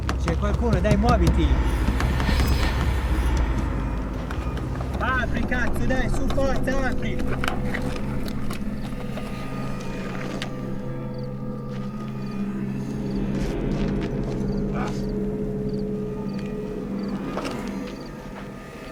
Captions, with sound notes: There's someone here, come on! (Eerie horror sound) Open this fucking door, now, come on!